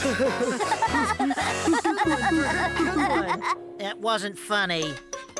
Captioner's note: machines Laughing